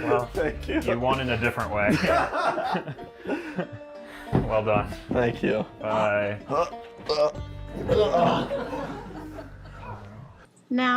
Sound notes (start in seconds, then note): 7.8 audience laughter